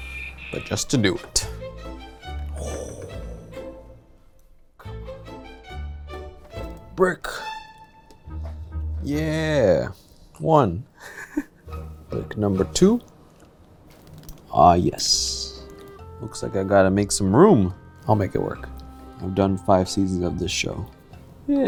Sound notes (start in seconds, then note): 11.0 chuckles